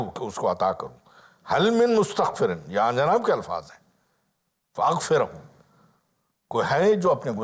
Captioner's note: Arabic